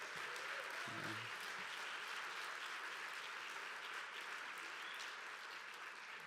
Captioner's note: applause